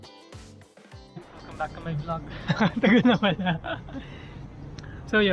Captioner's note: laughs